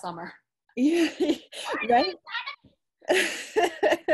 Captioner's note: laughs